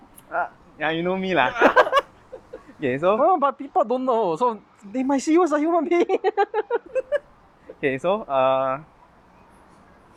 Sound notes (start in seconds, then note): 6.0 laughs